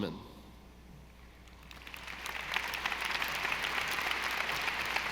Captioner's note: audience applauding